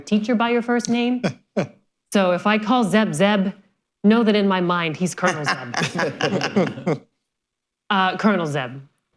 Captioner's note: laughter